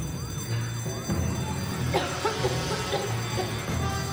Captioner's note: alarm; cough; alarm